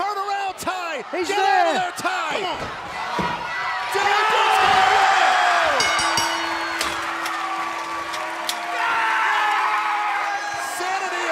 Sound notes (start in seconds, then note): 4.3 cheers and applause; 5.6 bell ringing